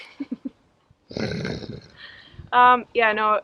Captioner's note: laughs